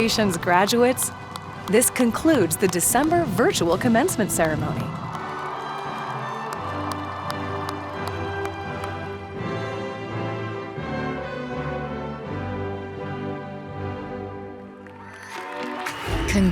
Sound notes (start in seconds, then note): 5.6 crowd cheers and applauds; 15.0 upbeat music plays